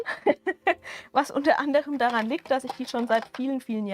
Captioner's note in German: gelächter